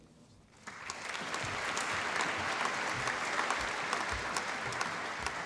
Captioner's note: applause